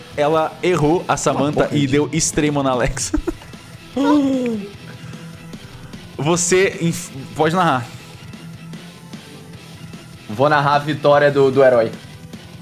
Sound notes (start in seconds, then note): 2.8 laughs; 3.9 gasps